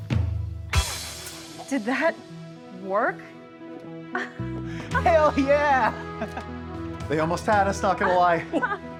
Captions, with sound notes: - Did that work? (laughs) - Hell yeah! (laughs) - They almost had us. Not gonna lie.